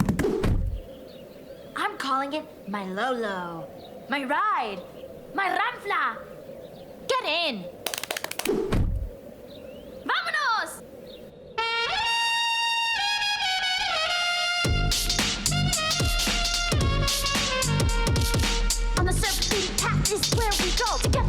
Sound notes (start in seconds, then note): 10.2 speaks foreign language; 11.7 bright upbeat music